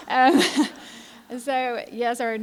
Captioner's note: laughter